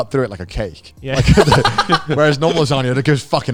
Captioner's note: laughing